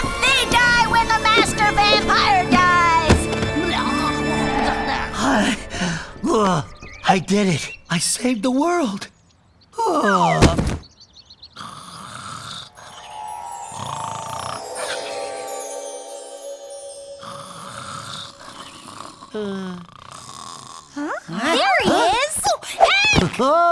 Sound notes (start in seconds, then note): 5.4 panting; 8.5 birdsong; 11.6 snoring; 17.2 snoring